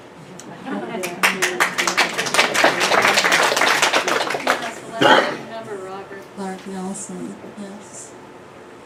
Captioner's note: clapping